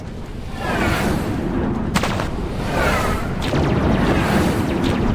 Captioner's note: craft whooshing; lasers shooting